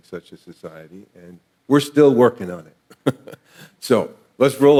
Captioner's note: laughs